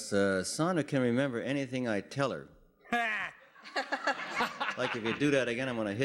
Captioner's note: laughing